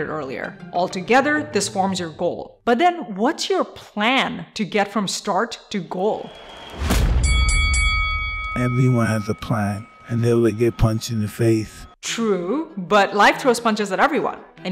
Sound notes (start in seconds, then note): 7.1 bell rings